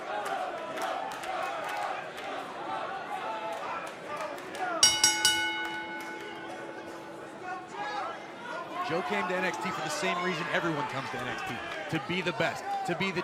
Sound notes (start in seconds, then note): 0.1 crowd cheering; 4.8 bell ringing